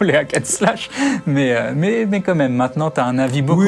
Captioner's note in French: rires